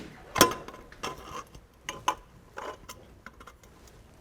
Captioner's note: pipe rattles softly